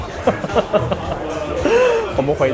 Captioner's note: grateful laughter